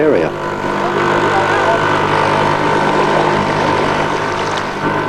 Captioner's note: sound of outboard motor